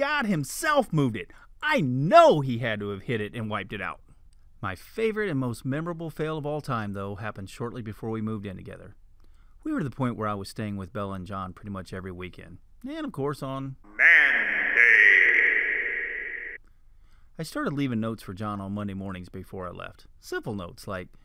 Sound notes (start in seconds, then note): 14.5 loud echo voice; 16.7 man's voice